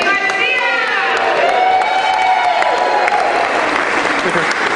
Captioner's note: cheering